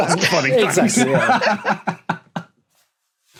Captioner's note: laugh